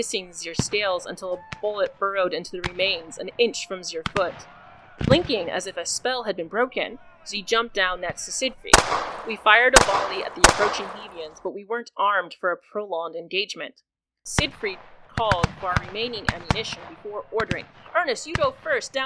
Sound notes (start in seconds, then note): 14.4 more gunfire